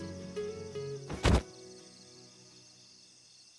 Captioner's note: thud